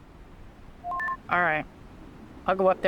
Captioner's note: radio beeps